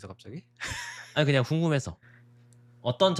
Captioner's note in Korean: 웃음